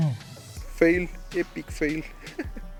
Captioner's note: laugh